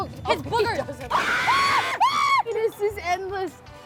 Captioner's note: screams